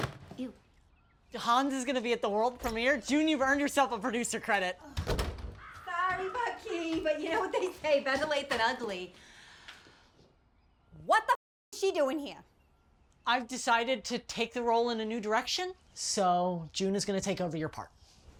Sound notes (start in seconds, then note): 4.9 door slamming